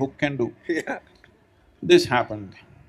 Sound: laughs

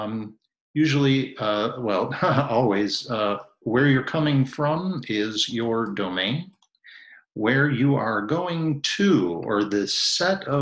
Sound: ha ha

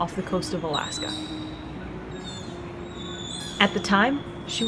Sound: sea otter pup vocalizations

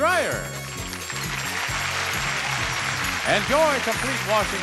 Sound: audience applauds

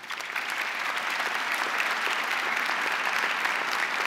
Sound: crowd applauding

